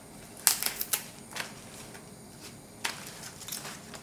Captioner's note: stems snapping